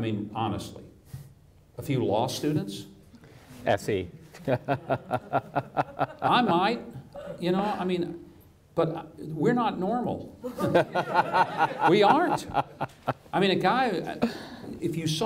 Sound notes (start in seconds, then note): 4.4 laughing; 10.5 audience laughs